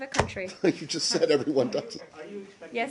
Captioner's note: laughter